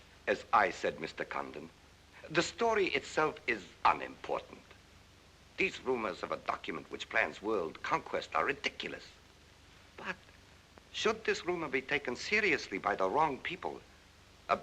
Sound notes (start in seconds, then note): none